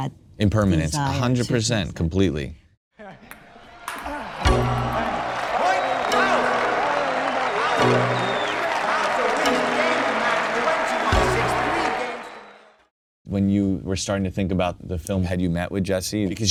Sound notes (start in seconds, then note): 4.0 spectators applauding; 4.8 spectators cheering